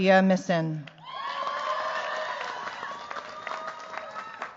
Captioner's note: cheers, applause